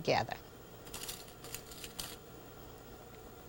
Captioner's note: rattle fabric pins